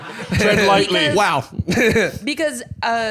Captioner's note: laughs